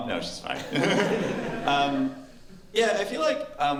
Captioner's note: laughter